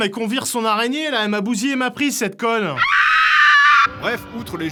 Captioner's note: screams